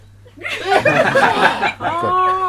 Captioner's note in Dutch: Gelach